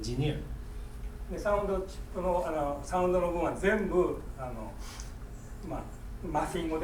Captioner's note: speaking in foreign language